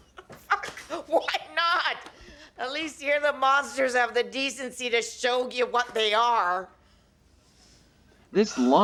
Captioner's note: laughs